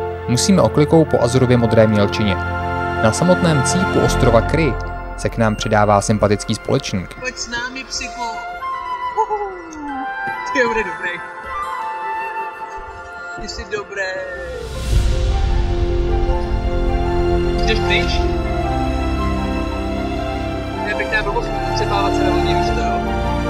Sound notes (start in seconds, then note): 9.2 enthusiastic sound